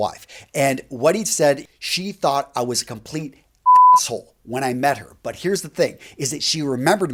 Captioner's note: beeping sound